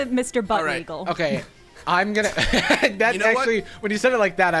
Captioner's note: Jarvis laughing